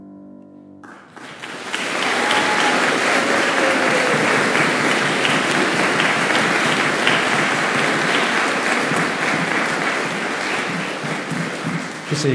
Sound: applause

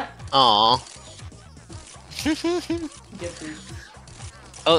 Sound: Aggreived Oatmeal noises

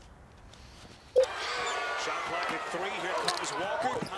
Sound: TV sound ON, basketball game

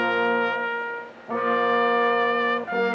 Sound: none

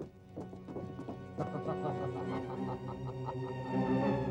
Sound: laughs

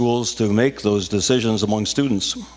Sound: none

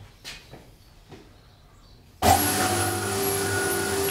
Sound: machine noise

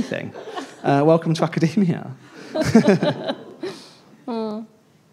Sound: everybody laughing

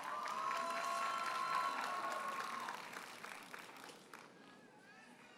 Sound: audience cheers and applauds

